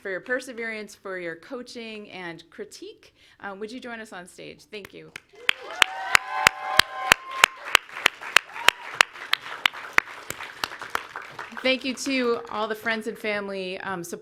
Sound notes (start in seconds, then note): 5.1 clapping